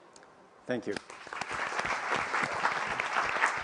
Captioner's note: applause